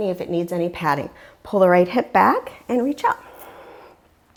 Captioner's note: deep breathing sounds